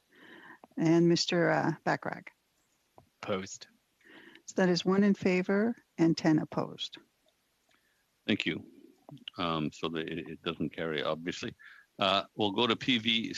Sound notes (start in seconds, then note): 4.2 speaking French